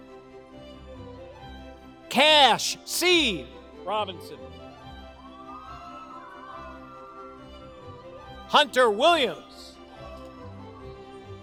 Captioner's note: applause